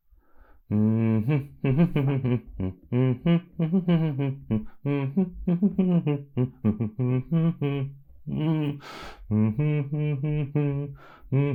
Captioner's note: humming another tune